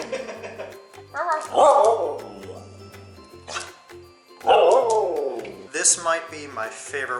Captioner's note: imitates bark; Laska barks